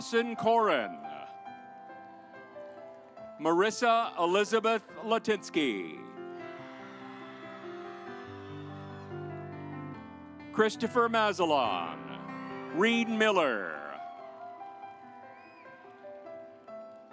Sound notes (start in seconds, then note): 2.0 stately music; 5.2 audience applauds; 14.2 stately music